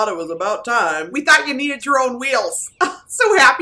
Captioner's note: laughs